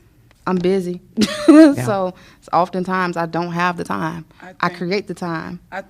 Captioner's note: laughter